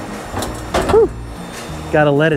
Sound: bowling ball thuds

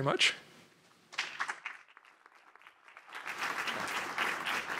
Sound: applause

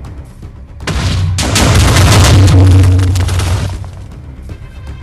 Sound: huge explosion goes off in background

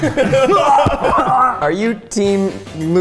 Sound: laughter

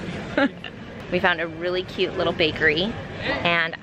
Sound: laughs

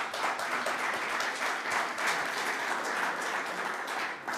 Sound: audience clapping

